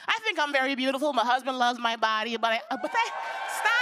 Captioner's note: cheers and applause